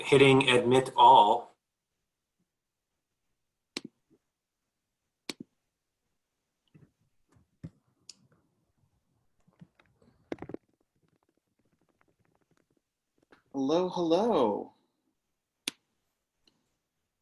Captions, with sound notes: hitting admit all. (person clicking) - Hello, hello.